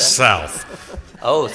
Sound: laughter

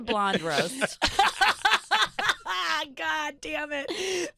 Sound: laughing

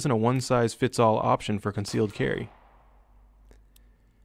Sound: gunfire

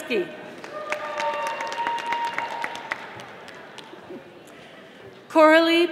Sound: audience applauding

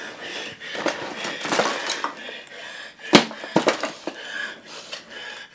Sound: labored breathing; labored breathing continues

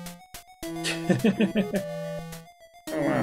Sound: chuckles

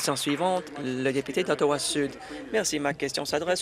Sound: applause

